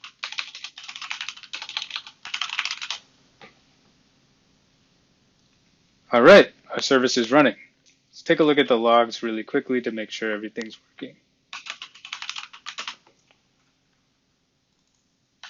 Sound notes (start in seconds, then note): 0.0 typing; 11.5 typing